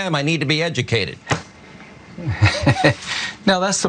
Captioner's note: laugh